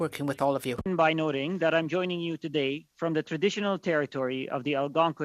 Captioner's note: speaking French